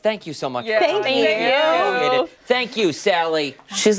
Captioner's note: laughter